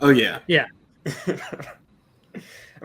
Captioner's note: chuckles